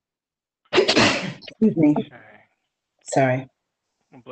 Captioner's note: sneezing